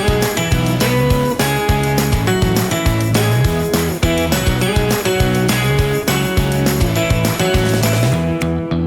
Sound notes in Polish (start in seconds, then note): 4.5 Aplauz